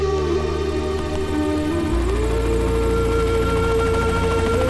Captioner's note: Helicopter whirring